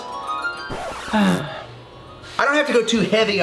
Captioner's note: sighs